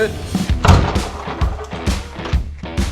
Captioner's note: door opens